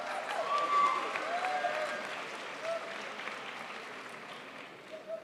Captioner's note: crowd applauds